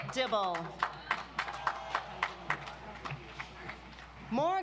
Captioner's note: audience applauds